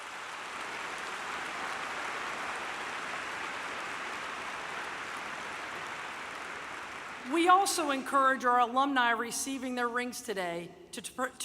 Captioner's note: applause